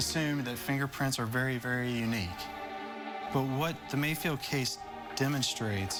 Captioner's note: none